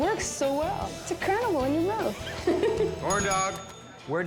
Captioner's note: laugh